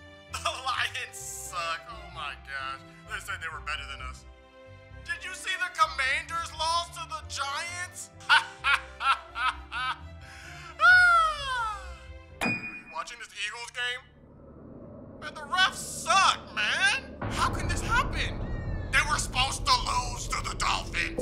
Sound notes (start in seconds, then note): 8.2 laughter; 12.4 piano note